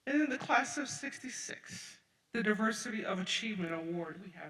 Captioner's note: none